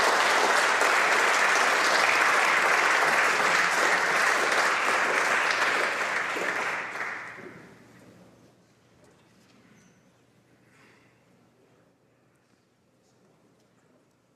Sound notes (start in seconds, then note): 0.0 applause